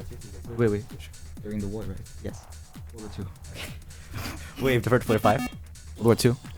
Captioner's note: wispering